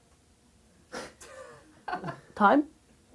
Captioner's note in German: Lachen